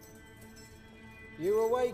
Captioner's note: ominous music; chains jingling